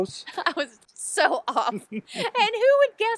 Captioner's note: chuckles